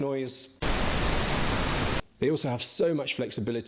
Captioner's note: static blaring